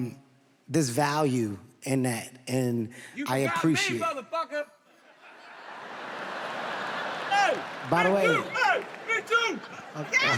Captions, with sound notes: there's value in that, and I appreciate. - You forgot me, motherfucker! (audience laughs) - By the way- - Hey, me too!